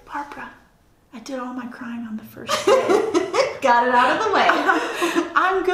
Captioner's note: laughter